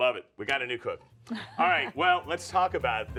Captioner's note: laughing